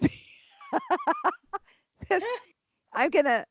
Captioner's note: laughter